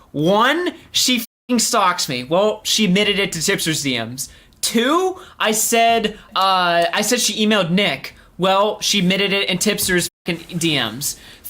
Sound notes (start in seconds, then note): none